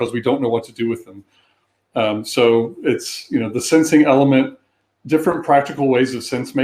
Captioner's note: erm